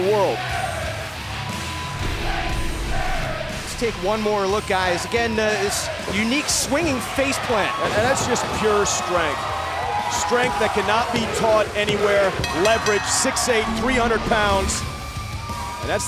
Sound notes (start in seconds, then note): 2.1 fans chanting